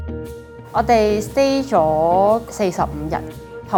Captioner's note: Cantonese